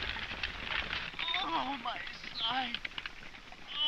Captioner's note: groaning